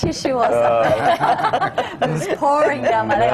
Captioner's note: laughter